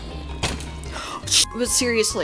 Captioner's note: gasp